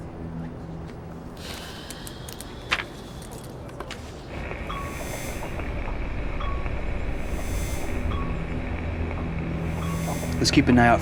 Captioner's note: sigh